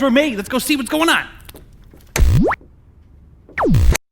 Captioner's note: TV whooshing